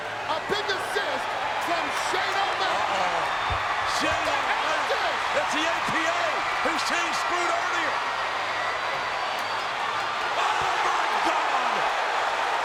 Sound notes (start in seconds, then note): 8.9 crowd cheering